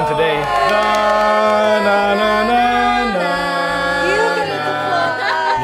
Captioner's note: everyone humming